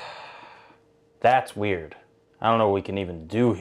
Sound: sighs

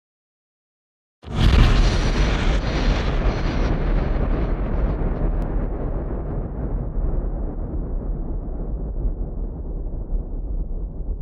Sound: sound of thunder hit

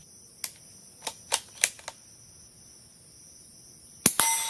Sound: gun loading; metal ding and gun reloading

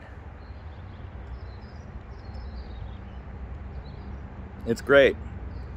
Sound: birds chirping from afar

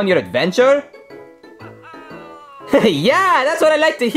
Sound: bright music; Luigi toy laughs

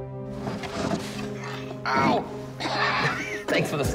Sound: chuckles

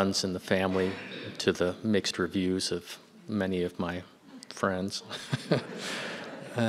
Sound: laughs

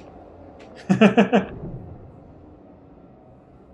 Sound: laughs

